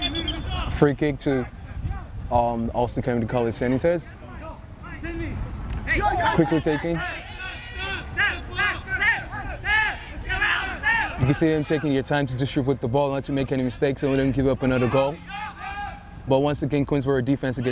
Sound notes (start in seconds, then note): 0.0 whistle tweeting; 5.3 players shouting; 8.6 players shouting